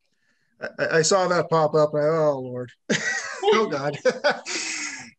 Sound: laughs

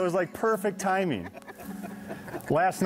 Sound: chuckles

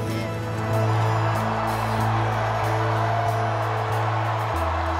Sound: crowd cheering

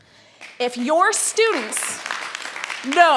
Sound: audience applauds

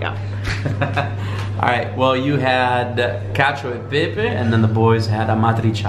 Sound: laughs

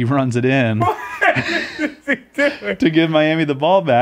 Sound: Chris laughs

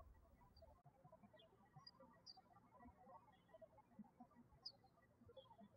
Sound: birds chirping

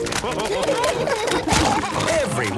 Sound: splashing

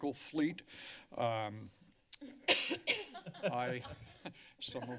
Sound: laughter; coughing; laughter

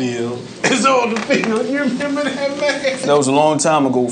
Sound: laughing

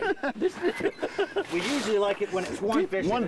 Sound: group laughing

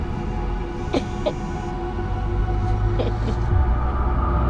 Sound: phone vibrates; ominous music

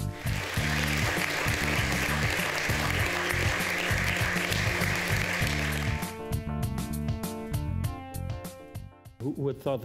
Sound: applause

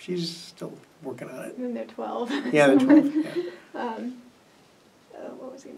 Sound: laughs

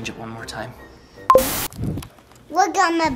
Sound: remote beeping; TV static fizzing

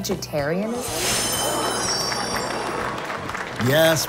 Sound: applause

